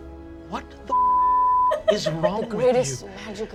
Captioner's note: beeping